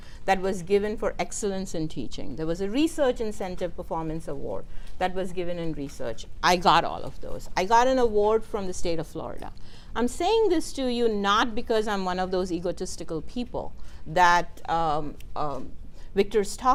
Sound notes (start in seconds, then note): none